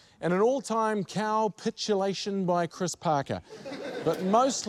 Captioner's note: laughter